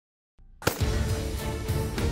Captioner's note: gun shot